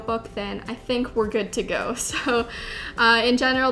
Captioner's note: laughs